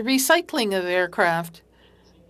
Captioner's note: speaking French